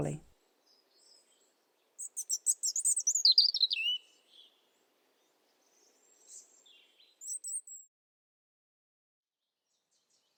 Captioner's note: bird song